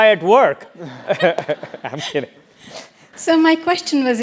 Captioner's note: laugh